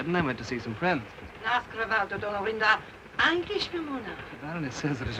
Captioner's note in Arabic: البارونة تتحدث لغة أجنبية